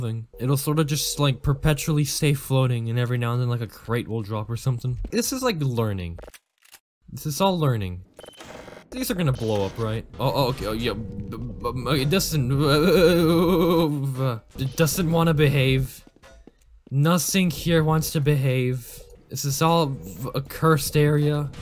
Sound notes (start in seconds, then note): 10.1 stammering; 11.6 cartoon Electrocution Sound.wma